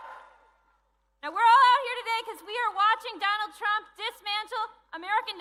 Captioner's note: cheering